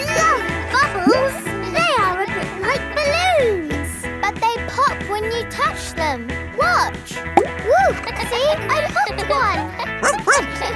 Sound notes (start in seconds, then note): 9.1 kids laughing; 10.0 barks